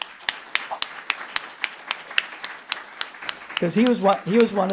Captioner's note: everyone claps